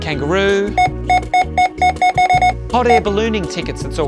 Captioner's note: scanner beeping repeatedly